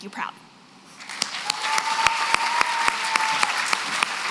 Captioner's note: applause